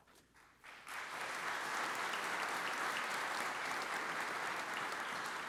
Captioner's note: audience applauds